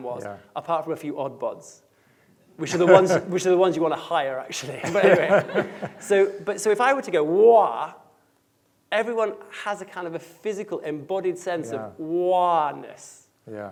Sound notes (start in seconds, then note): 4.6 laughing